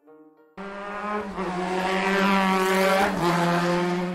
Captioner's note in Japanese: バイクで走る音